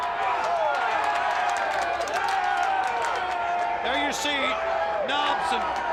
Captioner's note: crowd chatter